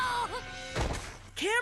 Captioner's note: thuds on the ground